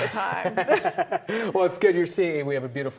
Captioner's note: laughter